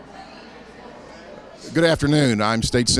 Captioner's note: attendees chattering